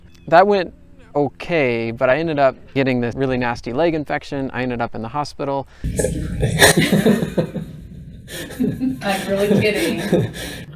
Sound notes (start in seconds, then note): 5.8 laughs